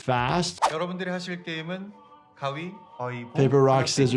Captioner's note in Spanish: reclutador hablando en coreano